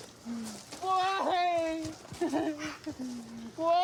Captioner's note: sobs